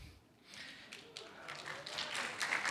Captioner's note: applause